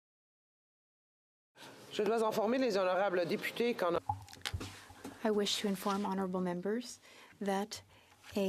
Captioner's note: speaking French